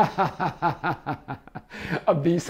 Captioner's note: laughing